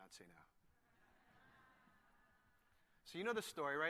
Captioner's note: laughter